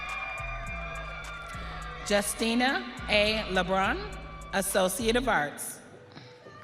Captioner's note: audience cheering